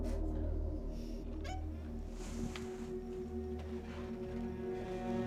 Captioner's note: door creaking